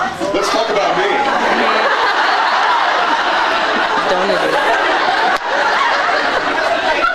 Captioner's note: laughs